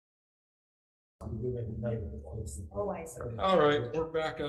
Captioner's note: members chattering